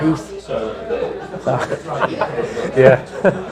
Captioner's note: chuckling softly